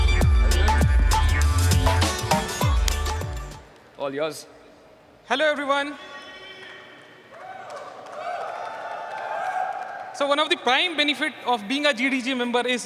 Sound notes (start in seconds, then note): 7.3 cheers and applause